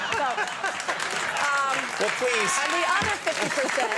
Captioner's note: laughing